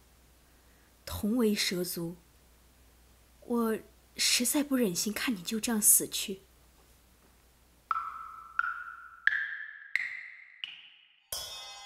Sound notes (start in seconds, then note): 6.1 cymbal crash; 6.1 wood knocking noise